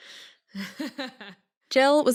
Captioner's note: giggles